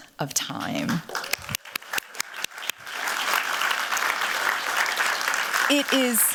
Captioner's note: applause